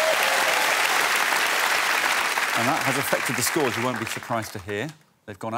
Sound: cheers and applause

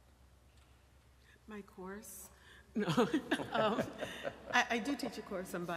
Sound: laughing

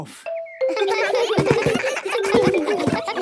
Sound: giggles

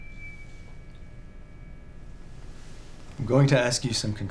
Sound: machine whirring

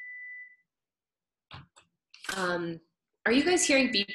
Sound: beeping

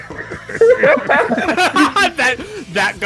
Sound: laughter

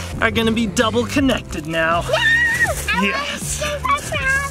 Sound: squeals

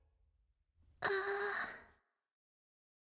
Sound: Hilary groaning

